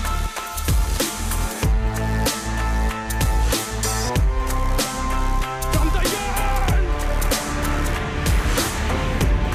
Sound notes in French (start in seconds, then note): 5.8 il crie